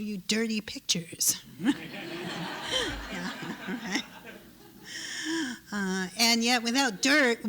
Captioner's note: laughter